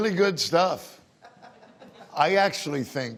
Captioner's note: laughing